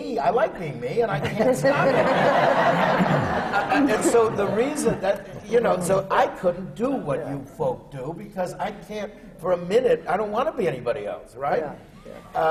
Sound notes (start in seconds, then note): 4.5 laughter